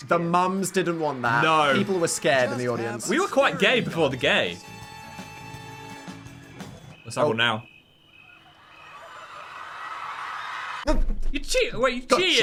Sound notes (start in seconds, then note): 4.7 upbeat instrumental music; 6.8 crickets chirping; 8.3 audience cheering